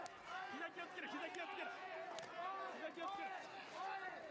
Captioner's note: cheering